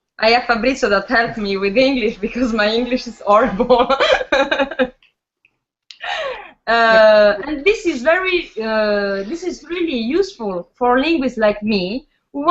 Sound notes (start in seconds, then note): 3.6 laughs